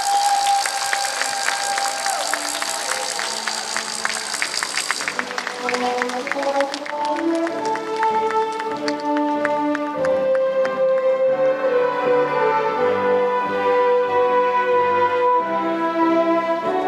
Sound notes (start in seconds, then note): 9.7 applause